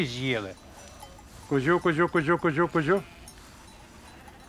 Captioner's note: goat call